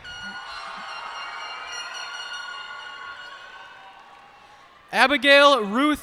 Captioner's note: cheers and applause